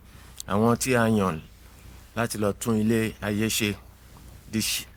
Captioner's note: speaking in foreign language